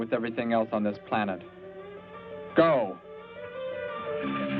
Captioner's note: siren wails